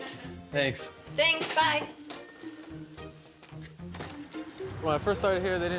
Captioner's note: chuckles; bell jingles